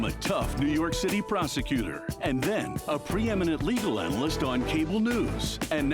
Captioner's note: none